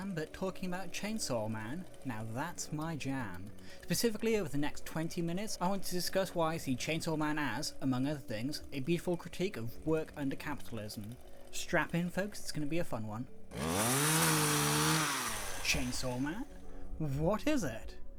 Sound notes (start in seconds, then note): 13.4 a chainsaw engine revs up